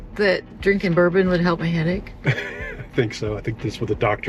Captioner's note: laughs